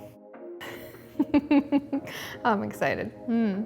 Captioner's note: giggling